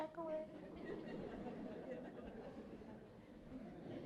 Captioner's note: laughter